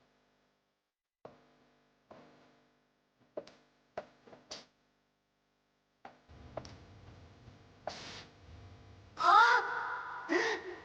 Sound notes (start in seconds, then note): none